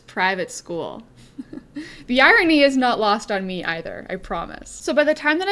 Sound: laughs

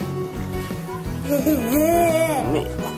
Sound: lols

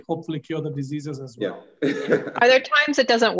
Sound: laughs

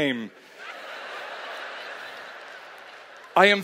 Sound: laughter

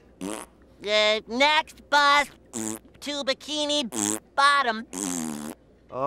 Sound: raspberry; raspberry

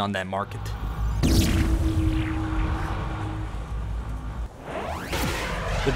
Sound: Gersch device sound effect

